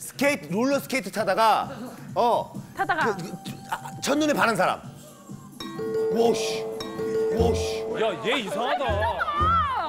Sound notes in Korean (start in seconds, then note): 5.6 딩동댕